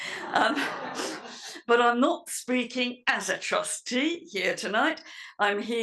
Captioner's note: laugh